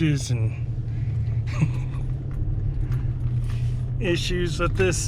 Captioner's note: chuckles